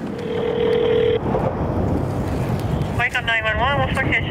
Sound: telephone ringing

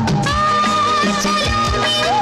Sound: none

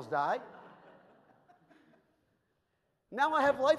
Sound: audience laughs

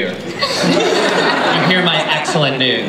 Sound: laughter

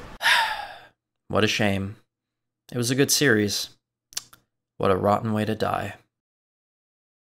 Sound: lip smack

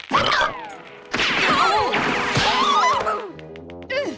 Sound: screaming

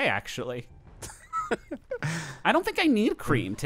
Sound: laughing

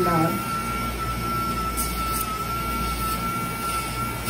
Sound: machine whirring

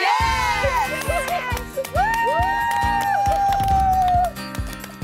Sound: cheering

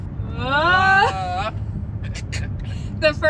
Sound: laughing

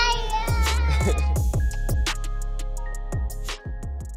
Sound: laughs

